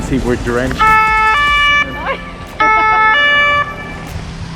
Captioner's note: alarm blares